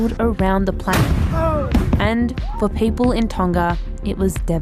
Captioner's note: loud bang